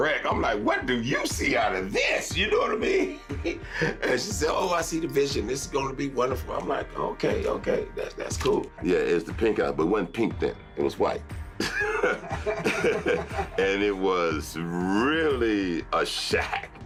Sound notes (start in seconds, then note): 3.0 laughs; 11.6 both laughing